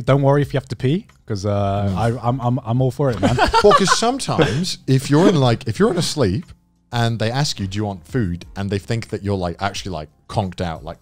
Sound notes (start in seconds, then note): 3.1 laughs